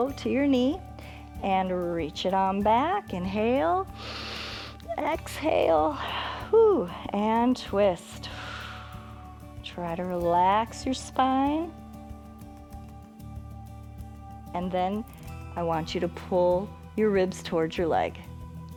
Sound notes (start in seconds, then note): 3.9 inhales; 8.5 exhales